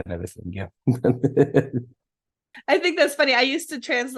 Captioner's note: laughing